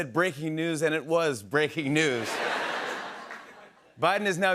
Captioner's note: laughter